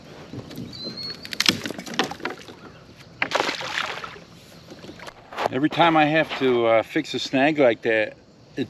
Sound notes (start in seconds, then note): 1.2 tree branch cracking; 3.2 water splashing